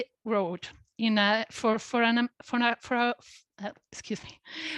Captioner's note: stutters